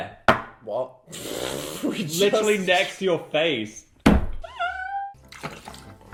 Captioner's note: laugh